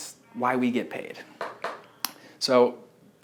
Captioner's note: marker knocks against whiteboard